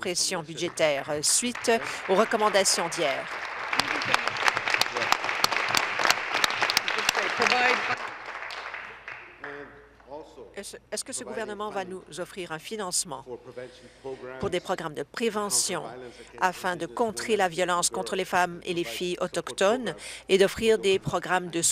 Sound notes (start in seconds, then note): 4.2 applause